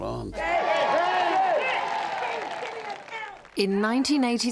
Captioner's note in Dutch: personages mompelen